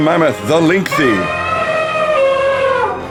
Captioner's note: sound FX: Trumpeting mammoth